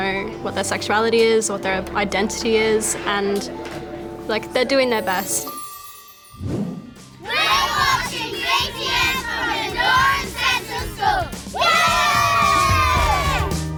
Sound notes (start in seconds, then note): 11.5 cheering